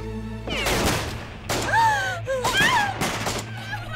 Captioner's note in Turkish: Silah sesleri